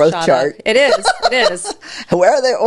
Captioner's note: laughing